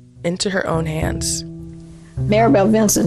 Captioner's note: soundbite of archived recording